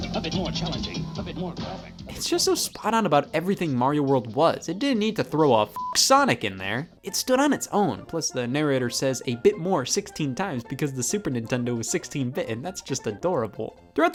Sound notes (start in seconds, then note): 5.7 beep